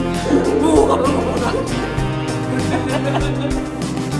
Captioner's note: laugh